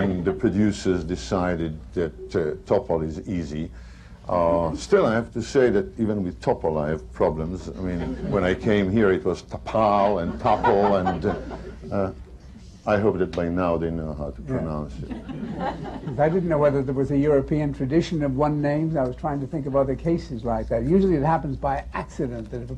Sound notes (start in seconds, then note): 0.0 laughter; 9.9 laughter; 15.0 laughter